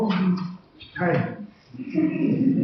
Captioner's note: giggles